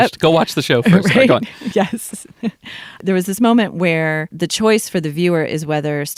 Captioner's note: laughs